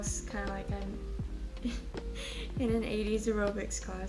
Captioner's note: chuckles